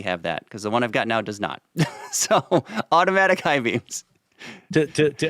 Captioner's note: laughs